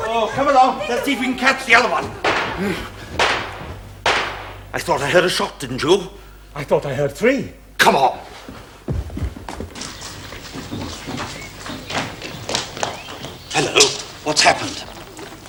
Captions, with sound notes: Come along. Let's see if we can catch the other one. (Gunfire) - l thought l heard a shot. Didn't you? - l thought l heard three! Come on! Hello... What's happened?